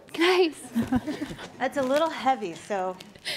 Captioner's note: laughing